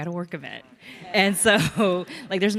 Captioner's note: audience laughs